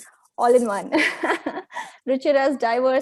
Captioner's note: chuckles